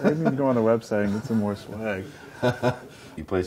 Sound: laughs

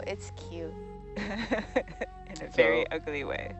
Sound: woman laughing

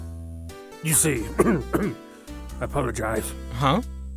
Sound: ahem, ahem

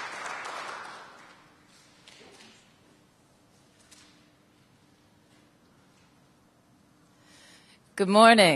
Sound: applause

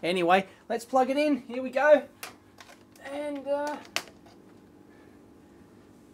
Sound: shuffling sound

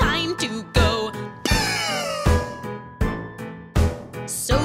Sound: cough!

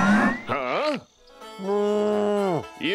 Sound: mooing

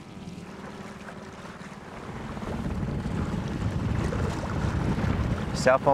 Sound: water splashing; boat engine revving

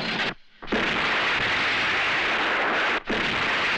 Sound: explosion

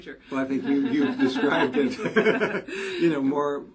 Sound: laugh

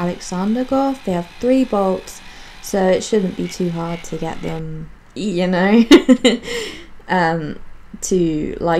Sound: giggles

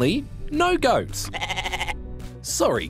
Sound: bleats

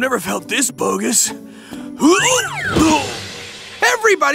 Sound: grunting

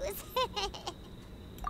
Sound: laughing

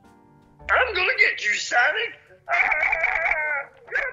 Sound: truly insane cartoon voice; yelling

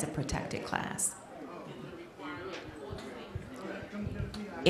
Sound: off microphone

